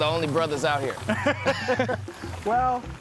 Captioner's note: guys laugh